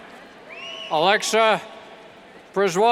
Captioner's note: cheers and whistles